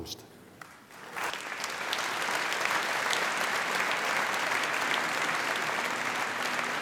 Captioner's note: applause